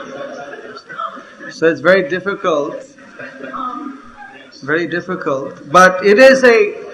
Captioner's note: laughter